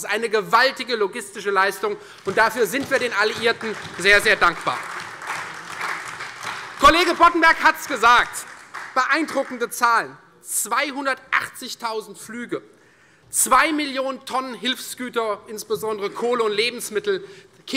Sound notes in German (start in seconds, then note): 4.6 Beifall Freie Demokraten, CDU, BÜNDNIS 90/DIE GRÜNEN, SPD und AfD